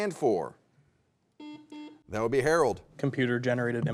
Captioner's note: buzzer beeps